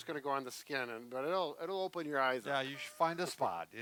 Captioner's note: laughing